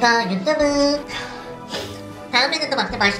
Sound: struggling to breathe

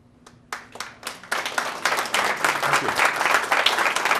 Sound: applause

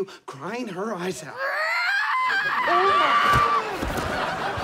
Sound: yelling

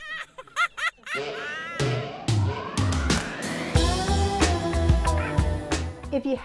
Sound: belly laughing

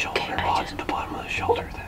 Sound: whispering

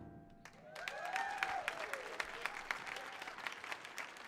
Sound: audience cheers

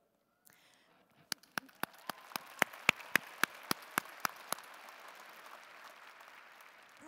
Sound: applause

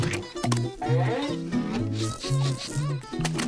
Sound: sniffing

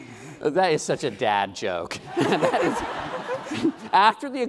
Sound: laughing

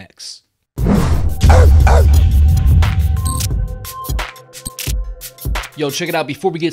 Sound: dog barking; light music

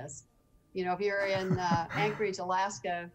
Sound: laughing

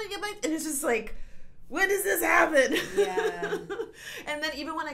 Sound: laughs

